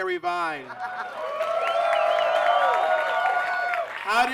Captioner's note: audience claps and cheers